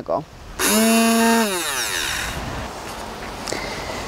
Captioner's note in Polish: odgłos silnika blendera kuchennego